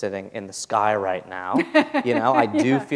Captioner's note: laughter